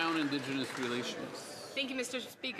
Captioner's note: some Applause